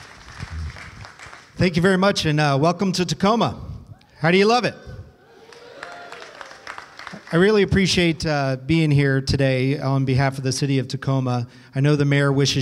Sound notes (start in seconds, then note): 0.0 applause; 5.2 cheers